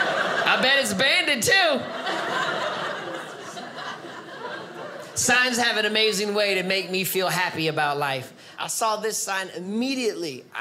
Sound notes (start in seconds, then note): 2.3 audience laughing